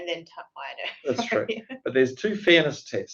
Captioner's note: laughs